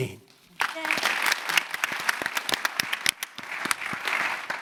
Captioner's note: audience applauding